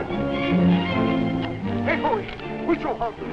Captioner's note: speaking native american language